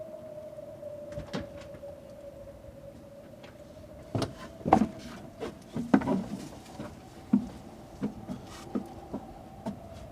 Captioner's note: light howling wind